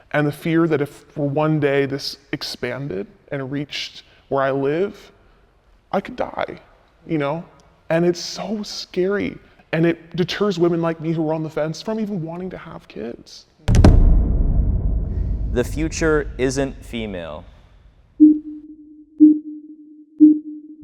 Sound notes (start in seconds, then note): 13.6 audio thumps; 18.0 countdown chiming